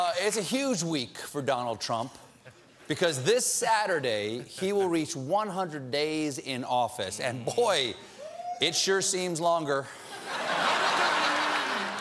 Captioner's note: cheers and applause